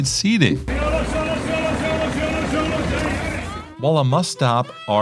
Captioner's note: passerby speaking french